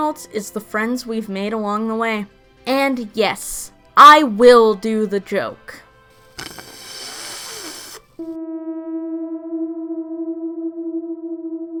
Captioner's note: slurping